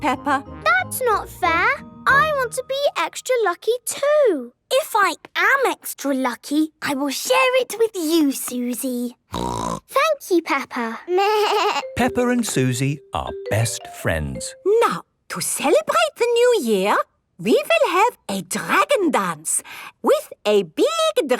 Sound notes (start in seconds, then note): 9.3 snorting; 10.8 bleating